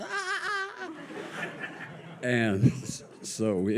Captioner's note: audience laughs